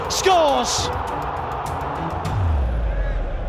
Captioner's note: crowd erupts